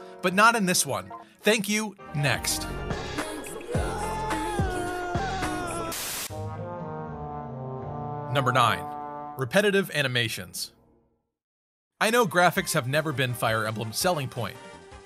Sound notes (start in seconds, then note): 3.2 Corrin screaming